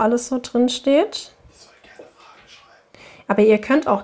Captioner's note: man, whispers